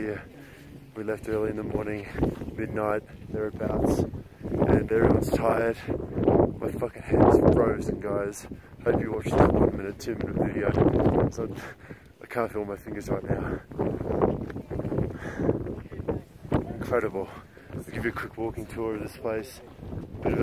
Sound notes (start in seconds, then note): 10.2 wind whipping; 15.0 breathing deeply